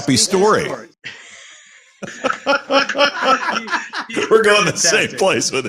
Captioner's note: group laughs